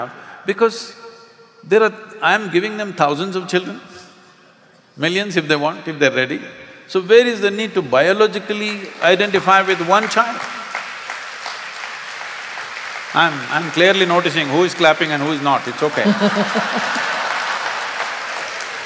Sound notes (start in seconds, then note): 12.0 applause; 17.5 laughter/Applause